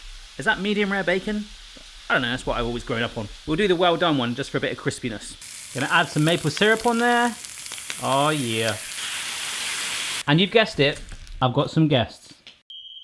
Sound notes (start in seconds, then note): 5.7 sizzling